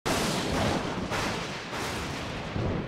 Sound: thundering

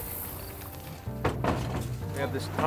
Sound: canoe clattering

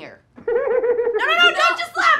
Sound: laughter

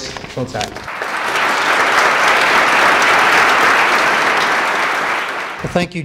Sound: applause

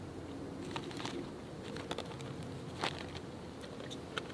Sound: rustling paper

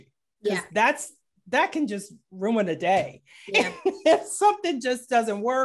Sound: laughing

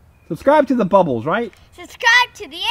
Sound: voiceover

